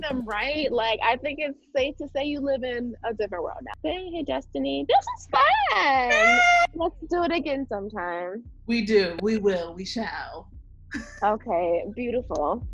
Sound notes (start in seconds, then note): 6.0 cheering